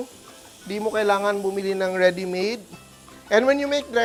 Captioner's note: sizzles